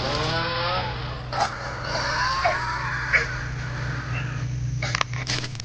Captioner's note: chainsaw; vine whipping; choking; crunching branches